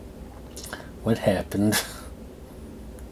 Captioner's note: coughs